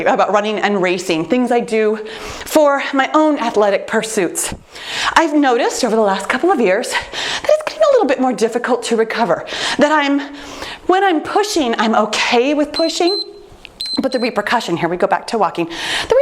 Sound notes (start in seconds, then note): 13.8 timer beeps